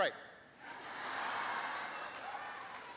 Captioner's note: laughter